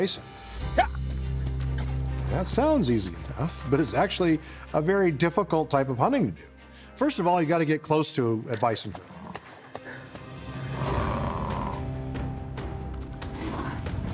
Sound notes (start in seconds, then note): 10.6 buffalo grunt